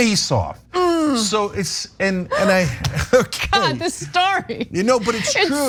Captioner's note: laugh